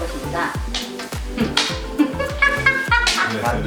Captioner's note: hahahhah